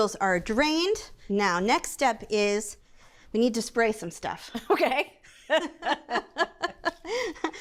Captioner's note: laughs